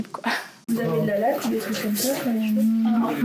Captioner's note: chatter